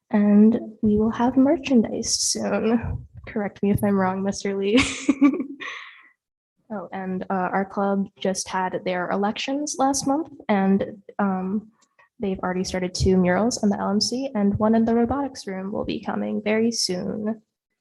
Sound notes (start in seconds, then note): 6.1 laughs